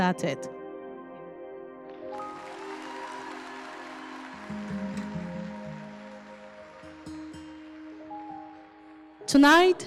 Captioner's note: crowd cheering